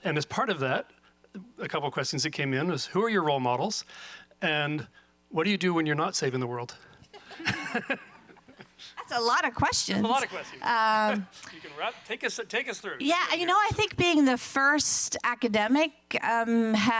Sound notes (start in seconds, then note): 7.1 laughs; 7.1 audience laughing